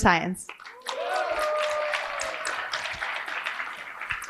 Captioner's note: applause